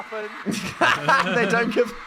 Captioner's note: laughing